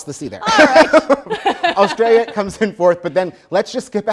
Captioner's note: both laugh